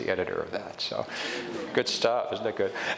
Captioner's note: audience chuckles